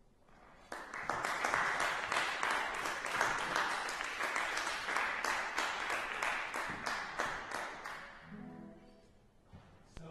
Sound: clapping

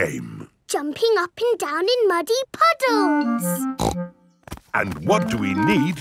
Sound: snorts

